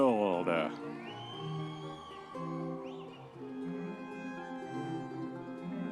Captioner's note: audience members cheering